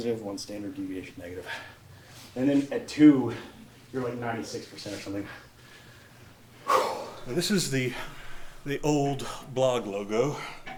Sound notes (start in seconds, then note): 1.4 heavily breathing; 6.6 heavily exhales; 7.8 heavily breathing